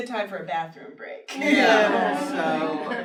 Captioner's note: laughter